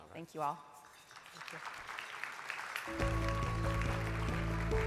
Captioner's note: audience clapping; inspiring music